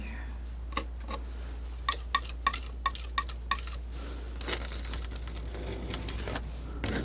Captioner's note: scratching